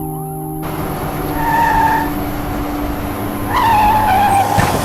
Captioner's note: tires screeching